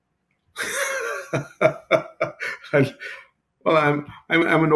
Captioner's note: laughing